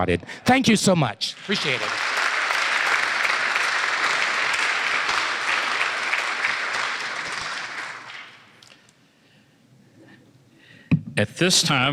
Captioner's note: applause